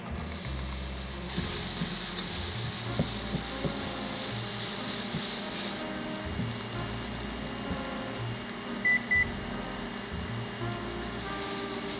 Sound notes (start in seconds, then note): 0.2 sizzling; 8.8 beep beep